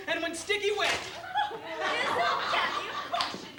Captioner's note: laughter